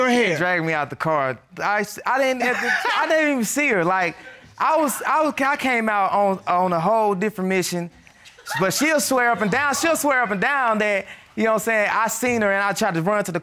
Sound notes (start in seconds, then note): 2.4 laughing